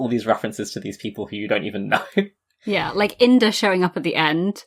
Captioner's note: laughing